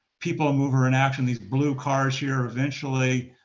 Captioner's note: tape distortion